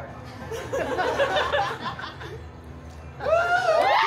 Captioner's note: guests laughing; guests cheering and applauding